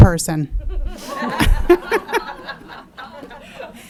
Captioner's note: audience laughing